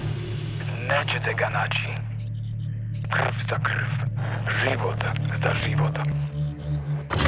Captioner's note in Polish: po serbsku